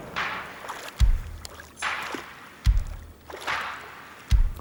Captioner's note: water sloshing